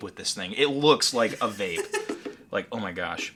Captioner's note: laughing